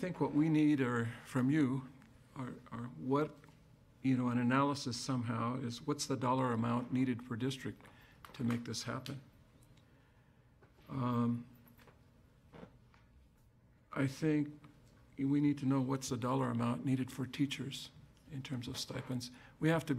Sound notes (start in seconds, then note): none